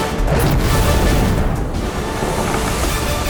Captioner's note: fire raging